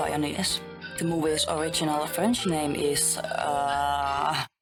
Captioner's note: google female ai voice saying L'Arrivée d'un train à La Ciotat